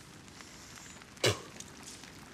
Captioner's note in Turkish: Tükürme sesi